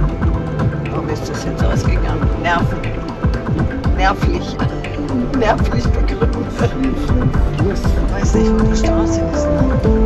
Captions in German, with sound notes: Warum ist das jetzt ausgegangen? Nerven. Nervlich. (lacht:) Nervlich begründet. Man weiß nicht, wo die Straße ist, ne?